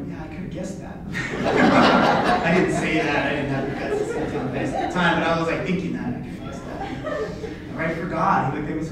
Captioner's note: laughter